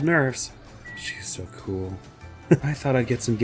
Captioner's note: dreamily